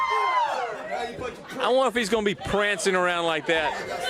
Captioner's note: crowd cheering